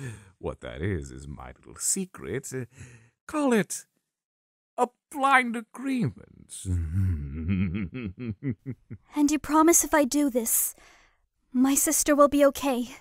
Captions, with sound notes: What that is is my little secret... call it... a blind agreement~ (evil chuckle) And you promise if I do this, my sister will be okay?